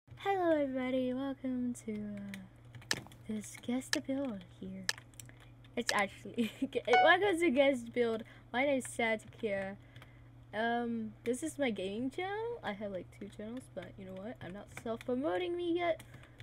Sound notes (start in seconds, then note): 6.2 giggles